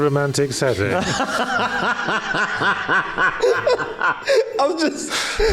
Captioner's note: laughs